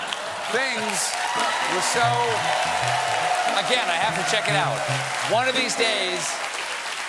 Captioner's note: cheers and applause